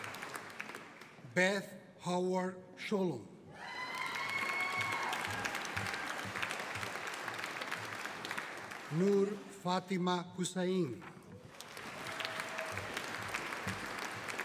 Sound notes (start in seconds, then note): 3.6 audience cheering; 11.4 audience applauding